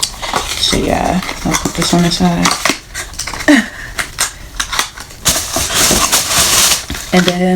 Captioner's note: weird laugh, God knows why